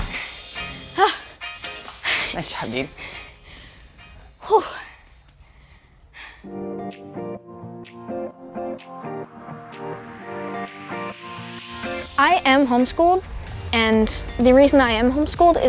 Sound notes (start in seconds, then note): 2.9 breathes heavily; 6.4 upbeat music